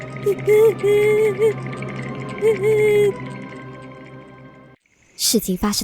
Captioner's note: sobbing